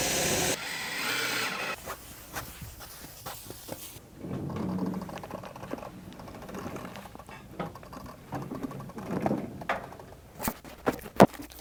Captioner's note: sawing